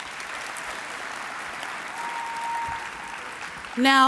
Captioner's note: applause